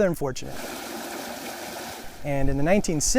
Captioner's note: water rushing